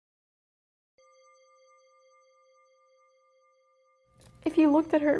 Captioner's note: bell ringing solemnly